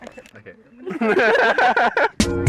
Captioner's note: laughs